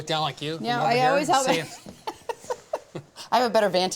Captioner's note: laughs